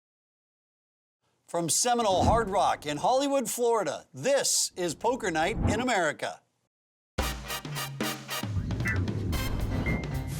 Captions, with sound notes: - [Voiceover] From Seminole Hard Rock in Hollywood, Florida, this is Poker Night in America. (upbeat jazz music)